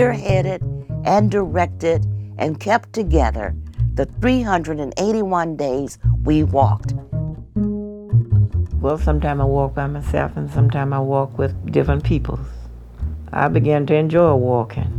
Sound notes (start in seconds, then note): 6.7 soundbite of archived recording